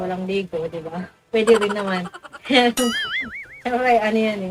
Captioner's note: laugh